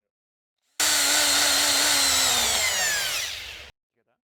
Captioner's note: drill whirring